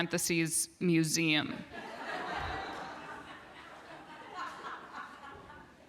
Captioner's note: laughter